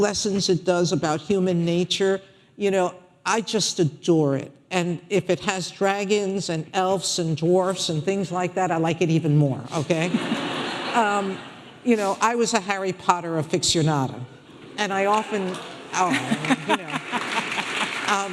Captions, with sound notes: lessons it does about human nature, I just adore it. And if it has dragons and elves and dwarves and things like that, I like it even more, okay? (audience laughing) I was a Harry Potter aficionado and I often-- (scattered applauding) Oh, I mean, you know.